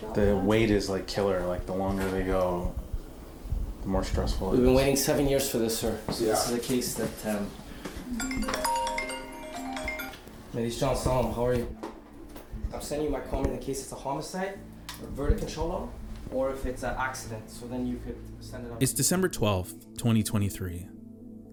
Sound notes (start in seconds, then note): 8.2 phone ringing; 10.5 speaking Farsi